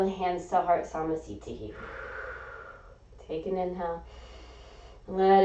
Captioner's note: exhaling; inhaling